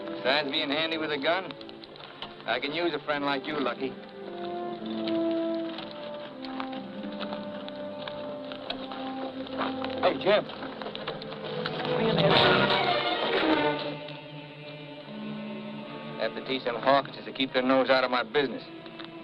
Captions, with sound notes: Beside being handy with a gun, I can use a friend like you, Lucky. Hey, Jim. - [thud] - [tense music] Have to teach them hawksters to keep their nose out of my business.